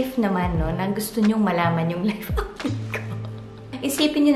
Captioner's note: laugh